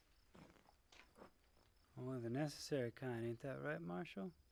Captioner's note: crickets chirping